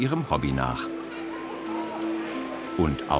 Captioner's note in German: Stimmengewirr